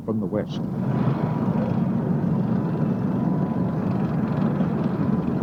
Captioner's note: tanks rumbling